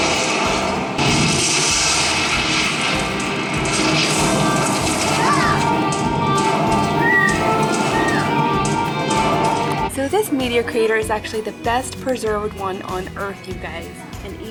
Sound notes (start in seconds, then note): 0.7 meteor crashing